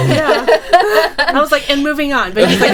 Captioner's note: people laughing